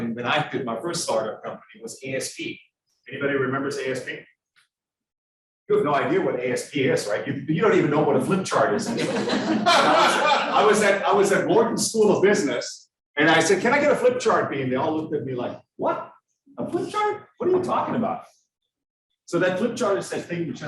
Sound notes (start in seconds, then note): 8.8 students laughing